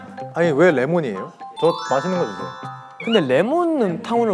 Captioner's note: confident